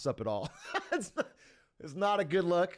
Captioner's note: laughter